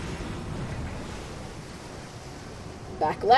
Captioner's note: splashing, creaking of wooden boat